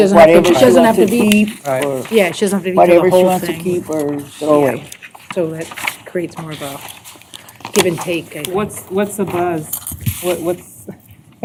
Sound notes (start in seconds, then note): 2.3 indistinct chatter